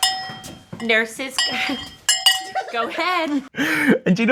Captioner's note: laughter